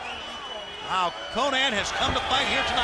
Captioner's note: crowd cheering